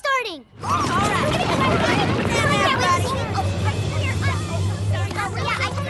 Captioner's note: hoofbeats, indistinct shouting